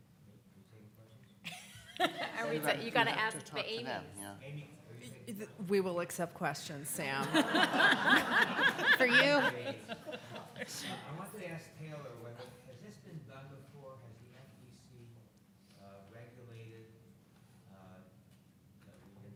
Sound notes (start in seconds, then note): 1.5 panelists laughing; 7.2 participants laughing